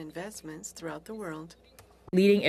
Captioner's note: speaking french